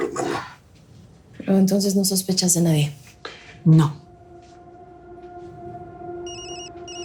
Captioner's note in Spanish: Suena el celular